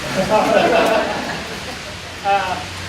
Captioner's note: crowd laughs